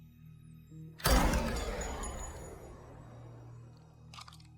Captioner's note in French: tirs d'armes à feu